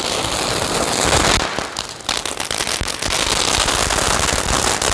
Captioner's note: fireworks exploding